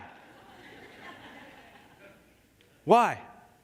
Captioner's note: congregación riendo